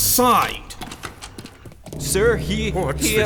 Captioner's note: sound of door opening